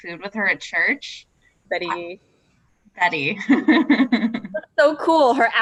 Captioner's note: laughs